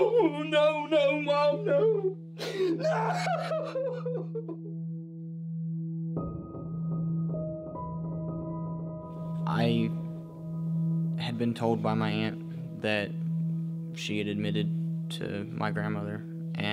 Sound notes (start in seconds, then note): 3.0 eerie instrumental music; 6.9 sobbing